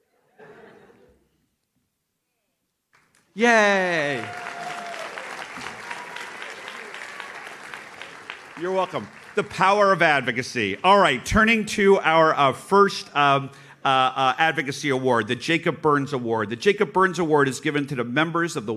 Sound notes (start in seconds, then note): 0.3 audience laughs; 3.3 audience cheers